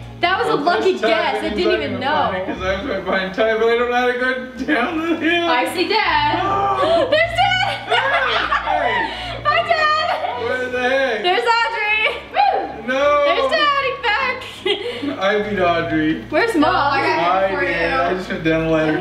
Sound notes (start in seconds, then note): 8.6 laughs